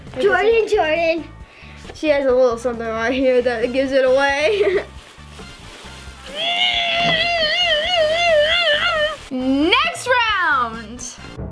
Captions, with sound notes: - Jordan, Jordan. - She has a little something right here that gives it away. (laughs) (squeals) - Next round!